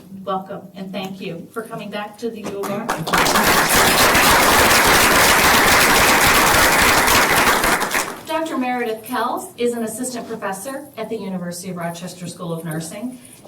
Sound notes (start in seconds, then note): 2.6 applause